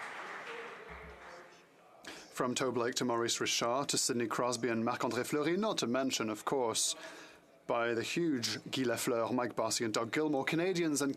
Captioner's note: applause